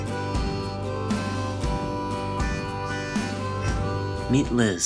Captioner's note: voiceover